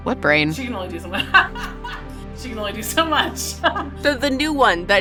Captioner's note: laughs